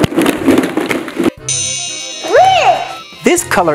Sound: balls tumbling; chiming

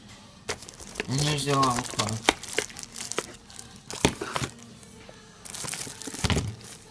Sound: box rustling; plastic crinkling

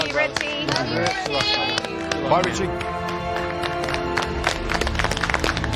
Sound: applause

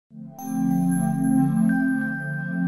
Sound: ping

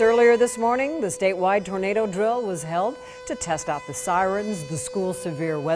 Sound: siren

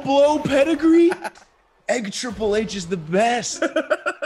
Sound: laugh; laugh

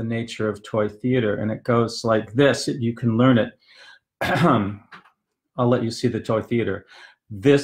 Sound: ahem

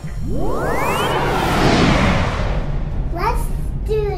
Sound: electric sound

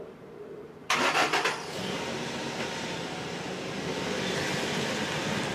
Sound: engine puttering

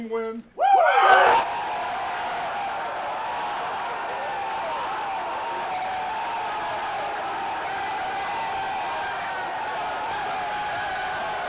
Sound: cheering

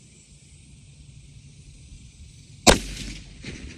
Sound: report of the rifle

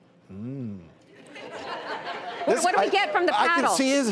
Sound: audience laughing

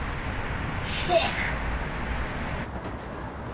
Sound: none

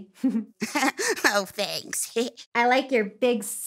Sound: laughs

